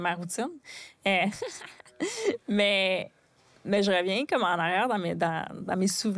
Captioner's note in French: rire